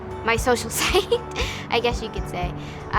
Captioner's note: student chuckles